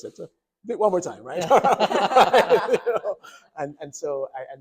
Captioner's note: doctors laughing